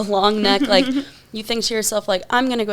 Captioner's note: laughs